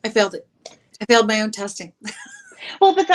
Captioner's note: laughs